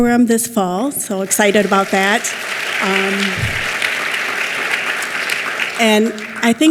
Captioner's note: clapping